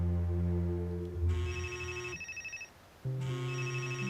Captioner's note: cell phone buzzing